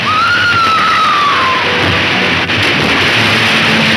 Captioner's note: screaming